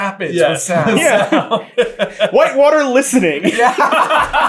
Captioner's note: laughter